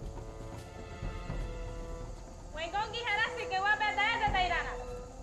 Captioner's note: speaking native language